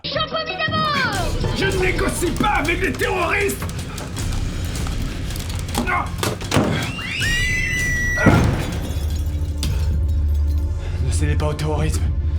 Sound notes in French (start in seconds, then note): 6.9 cris terrifiés; 8.3 explosion